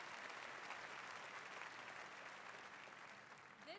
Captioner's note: cheers and applause